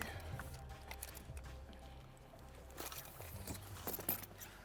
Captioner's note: gear rattling